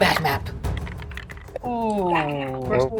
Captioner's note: die rattles